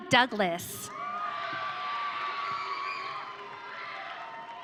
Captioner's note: audience cheering